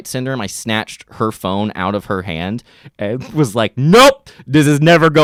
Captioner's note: snorts